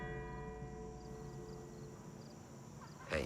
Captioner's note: cathedral bell ringing; crickets chirping